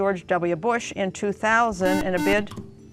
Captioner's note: beeping